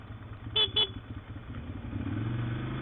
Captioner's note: honks horn